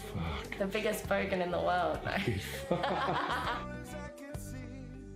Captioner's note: laughs